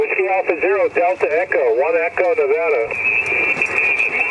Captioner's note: radio static